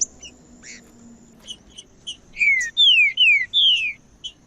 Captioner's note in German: trinca ferro cantando